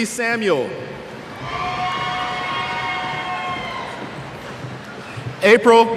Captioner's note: cheers